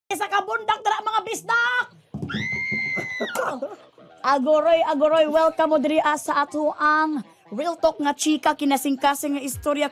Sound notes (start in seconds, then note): 2.2 shrieking; 3.0 laughs